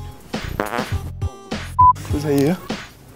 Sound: fart noise

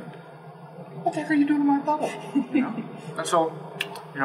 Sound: laugh

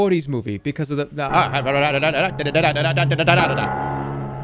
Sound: imitates fast-talking

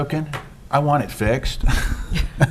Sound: laughs

